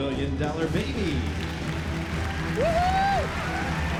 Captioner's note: whooping; crowd cheering